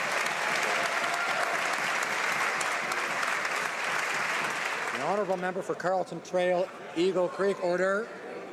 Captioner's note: some Applause